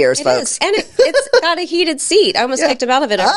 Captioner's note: laughing